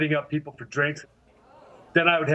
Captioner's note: audience exclaiming